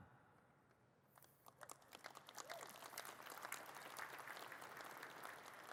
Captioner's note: audience claps